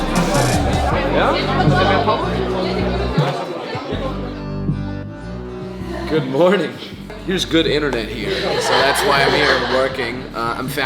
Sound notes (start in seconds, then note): 0.8 crowd chatting; 3.6 upbeat music